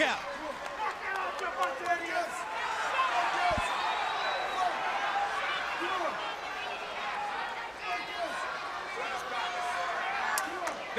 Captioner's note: crowd chatter